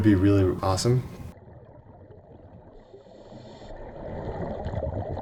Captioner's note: water gurgling